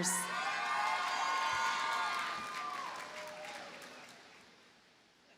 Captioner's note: audience cheers and applauds